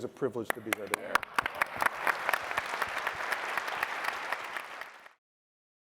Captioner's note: applause